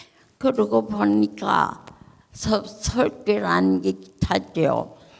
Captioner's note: speaking in foreign language